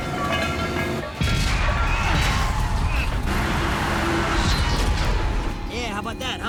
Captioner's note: canisters clatter; tires screech; explosions blast